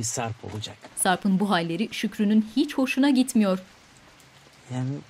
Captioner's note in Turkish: Yağmur sesi